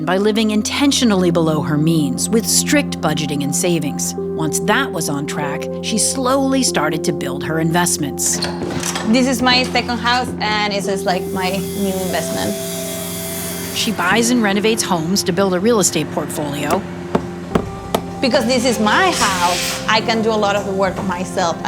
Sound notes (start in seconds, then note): 16.7 hammer banging